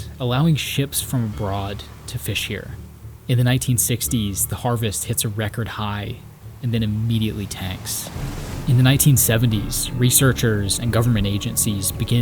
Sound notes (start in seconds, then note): 8.5 dramatic music; 8.5 waves crashing